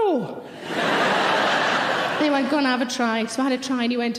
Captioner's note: audience laughing